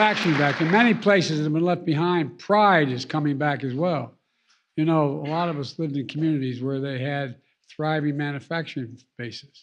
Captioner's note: applause